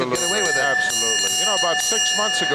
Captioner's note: bell ringing